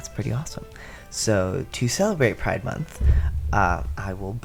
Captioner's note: thud